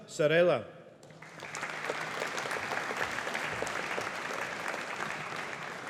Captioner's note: audience applauding